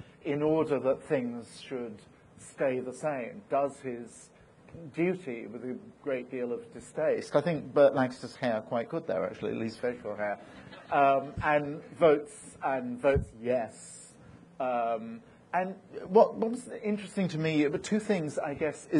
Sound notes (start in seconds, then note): 10.5 audience laughing